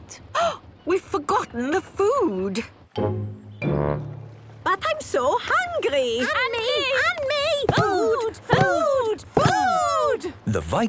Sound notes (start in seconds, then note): 0.5 gasps; 6.5 calling out in turn